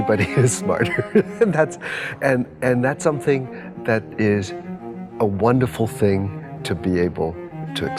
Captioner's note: laughs